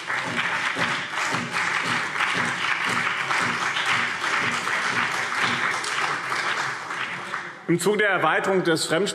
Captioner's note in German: Beifall BÜNDNIS 90/DIE GRÜNEN und CDU